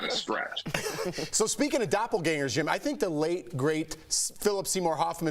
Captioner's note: laughter